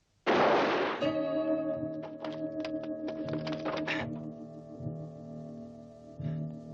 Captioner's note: gun banging; dramatic music